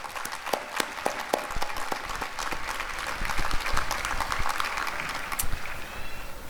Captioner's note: applause